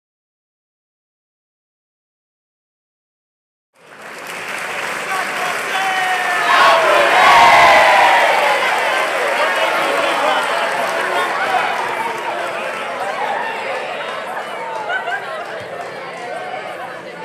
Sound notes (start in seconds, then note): 3.8 cheering/applause